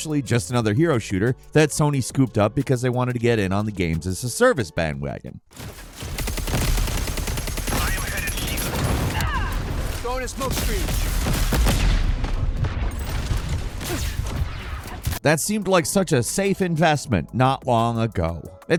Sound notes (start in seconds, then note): 6.3 guns firing; 10.4 smoke screen exploding; 14.0 guns firing